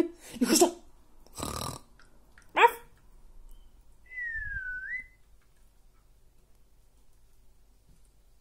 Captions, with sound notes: Leave it! (grunting sound) Woof! (whistling)